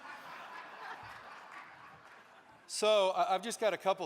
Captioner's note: audience laughing